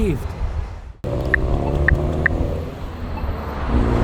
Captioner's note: hammering on button; roar of the stroad